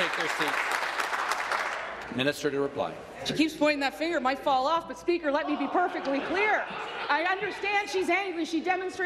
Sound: applause

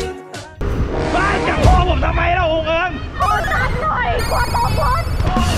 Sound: cheering

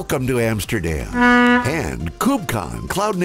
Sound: boat honks

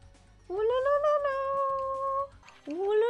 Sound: imitating the flute noise

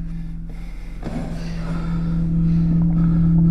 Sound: chair scrapes floor

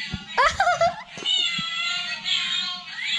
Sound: laughing

